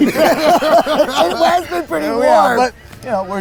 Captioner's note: laughing